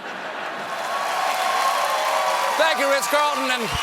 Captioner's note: cheers and applause